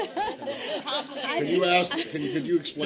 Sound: laughter

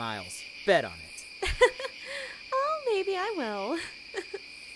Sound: more giggles

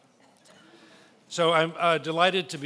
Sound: laughing

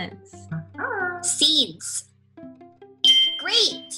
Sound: voiceover; ringing

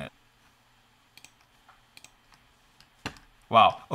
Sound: mouse clicking

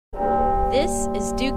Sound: bell chime

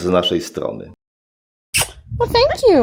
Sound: parrot air kiss

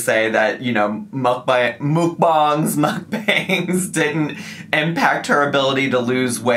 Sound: laughing

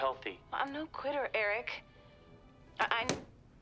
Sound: laptop shuts

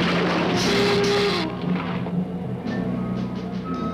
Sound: bridge cracking; Gila monster hissing

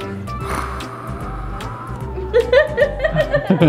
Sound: growls softly; laughs; giggles

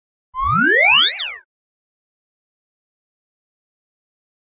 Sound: electronic beeping

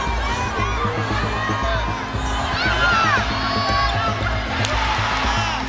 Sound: cheers and applause

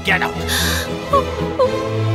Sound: crying

